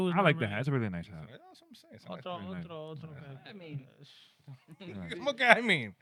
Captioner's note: speaking In Foreign Language